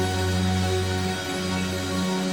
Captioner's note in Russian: аплодисменты; ликование; аплодисменты